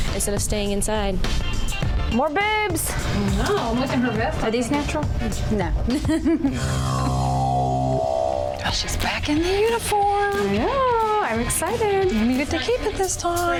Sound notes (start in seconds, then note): 5.9 laughs